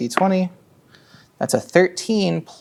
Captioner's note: dice rolling